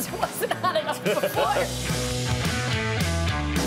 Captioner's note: laugh; upbeat music